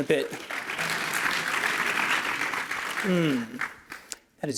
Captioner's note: applause